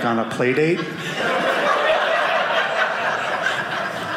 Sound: audience laughing

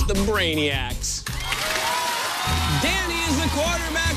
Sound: cheers and applause

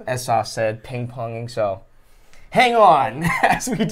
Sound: laughs

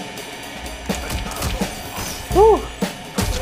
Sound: video game characters grunting

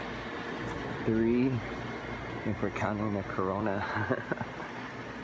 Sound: laughs

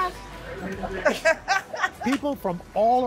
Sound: laughter

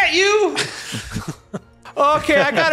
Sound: laughing

